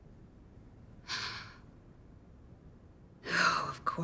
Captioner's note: Wendy sighing